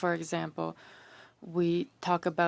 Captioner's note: speaking French